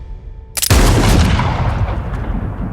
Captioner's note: gunshot